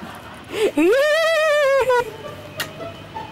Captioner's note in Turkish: Gülme sesi